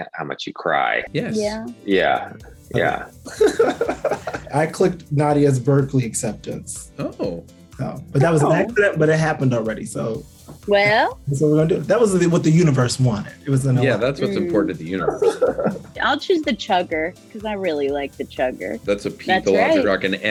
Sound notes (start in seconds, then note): 3.2 Brandon laughs